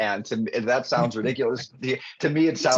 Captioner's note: laughing